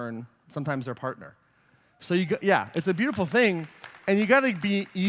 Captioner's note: applause